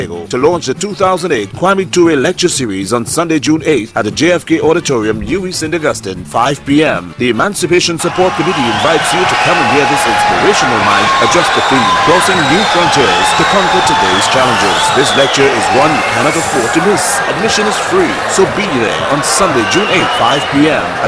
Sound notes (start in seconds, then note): 17.9 wild applause and cheering for 22 seconds